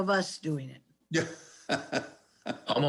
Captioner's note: laughs